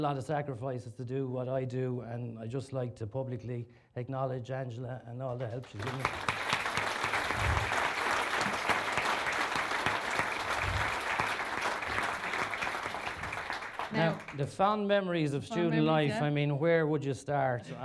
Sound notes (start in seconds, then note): 7.5 applause